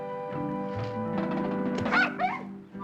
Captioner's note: yelping